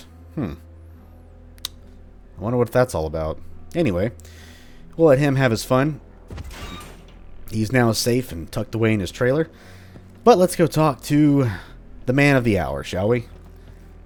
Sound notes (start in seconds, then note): 6.3 door squeaks closed